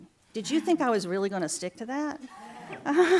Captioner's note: laughter